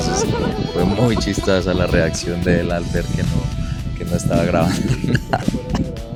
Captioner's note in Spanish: risas